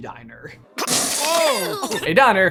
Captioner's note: water gushing